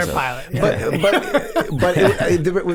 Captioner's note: Charlie chuckling